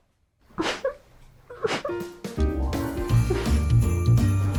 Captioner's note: whimpering